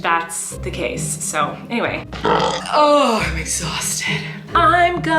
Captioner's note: burps